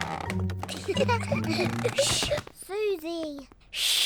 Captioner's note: floorboards creak; all giggle